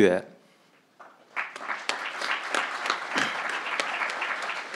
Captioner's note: crowd applauding